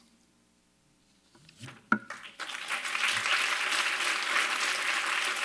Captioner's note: applause